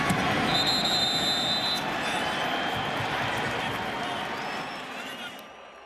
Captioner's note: whistles